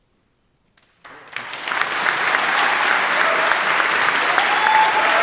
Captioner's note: audience applauding